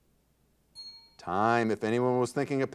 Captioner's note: bell rings